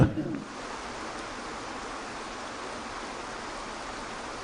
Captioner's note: Eckhart chuckling; water rushing